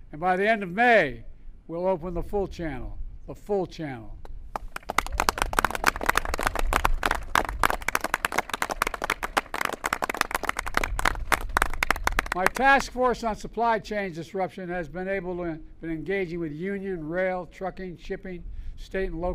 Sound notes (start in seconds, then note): 8.8 applause